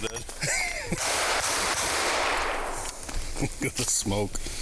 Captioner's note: gunshots ring out